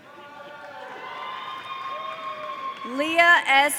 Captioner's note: audience cheering